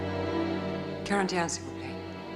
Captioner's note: speaking french